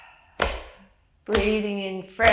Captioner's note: breathes in and out